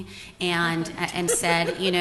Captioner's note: laughter